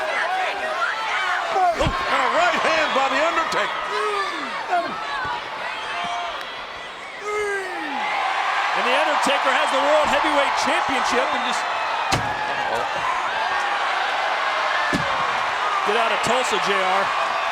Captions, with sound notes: And a right hand by The Undertaker. Three! (crowd cheers) And The Undertaker has the World Heavyweight Championship and just... (crowd cheers) (piece thuds) Get outta Tulsa, J.R.